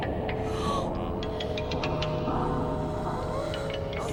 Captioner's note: children gasp